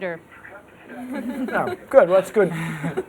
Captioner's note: laughter